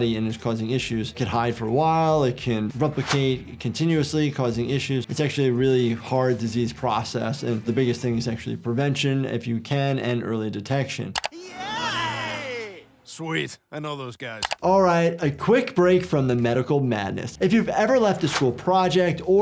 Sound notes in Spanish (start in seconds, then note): 11.1 chasquido del teclado; 14.4 chasquido del teclado